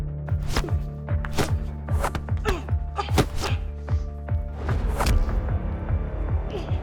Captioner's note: dramatic electronic music; grunting